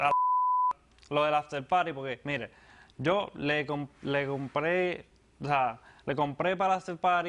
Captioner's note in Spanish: Bip